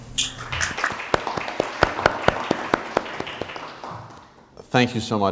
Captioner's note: applause